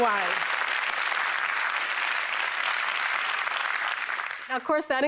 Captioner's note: applause